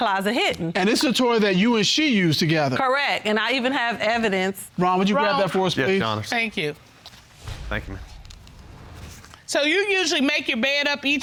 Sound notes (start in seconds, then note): none